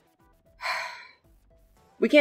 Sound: sigh

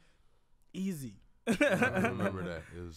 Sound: laughs

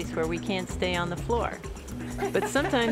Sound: woman laughs

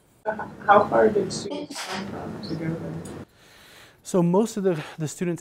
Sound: sneeze

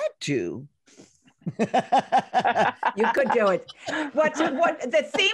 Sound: ladies laughing

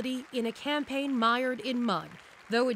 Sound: applause

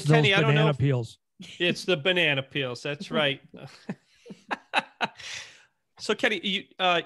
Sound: laughing

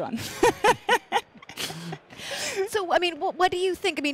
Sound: chuckles

